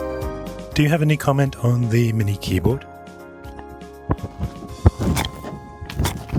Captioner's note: sniffing